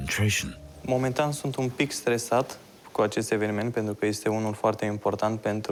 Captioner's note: speaking foreign language